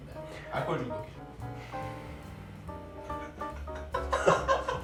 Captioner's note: deep sigh